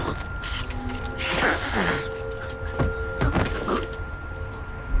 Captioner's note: grunting; tense orchestral music